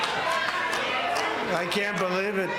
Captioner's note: applause